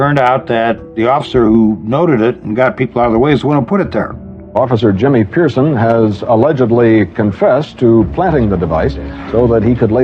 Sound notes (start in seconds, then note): none